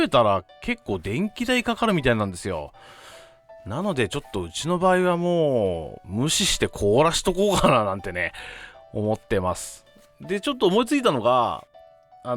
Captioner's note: laughs